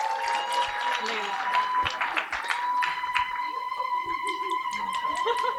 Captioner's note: cheering and applause